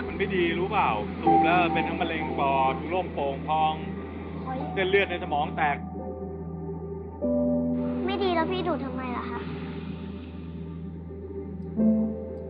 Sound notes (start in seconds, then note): 0.0 adult 6 speaking foreign language; 0.2 adult 7 speaking foreign language; 5.9 gentle music; 8.1 child 2 speaking foreign language; 9.8 gentle music